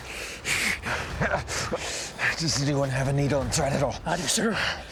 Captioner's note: panting